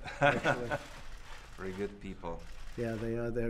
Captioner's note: laughs